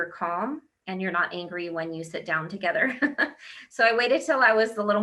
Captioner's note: laughs